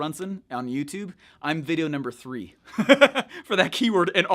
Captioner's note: laughs